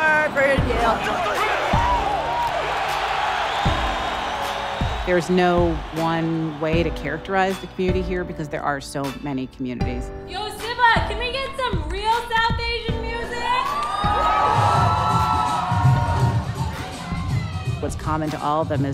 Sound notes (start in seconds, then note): 0.0 singing; 1.9 cheering; 13.2 cheering